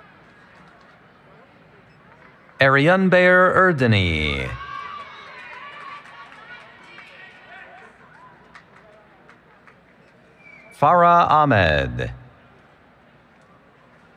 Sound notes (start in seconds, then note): 5.5 cheering